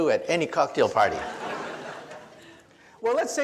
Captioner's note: audience laughs